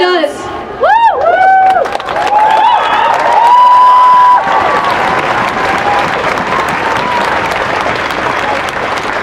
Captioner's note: cheering and applause